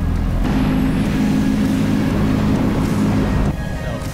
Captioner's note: motor roars